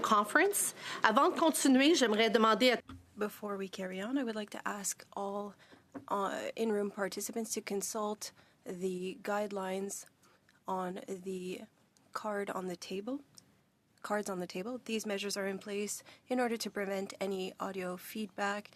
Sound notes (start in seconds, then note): 5.5 speaking French